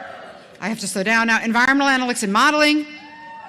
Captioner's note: cheering